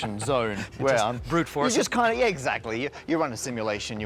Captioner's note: laughs